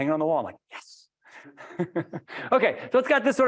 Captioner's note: laughing happily